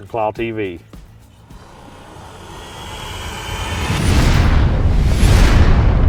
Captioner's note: dramatic roaring and boom